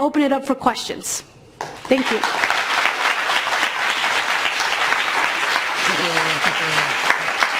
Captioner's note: applause